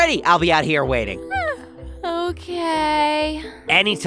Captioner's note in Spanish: bosteza